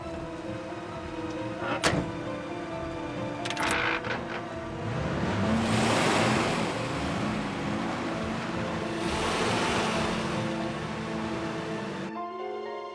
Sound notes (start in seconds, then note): 5.2 engine revs; 9.7 suspenseful music